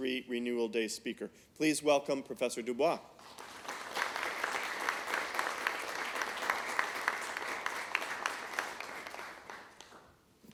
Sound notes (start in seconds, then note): 3.1 applause